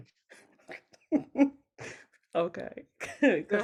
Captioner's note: everyone laughs